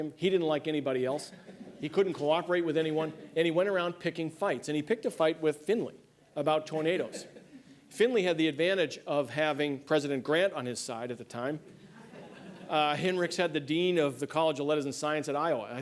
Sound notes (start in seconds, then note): 3.9 laughter